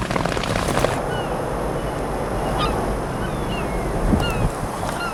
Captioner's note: birds chirping